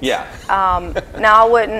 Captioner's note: laughs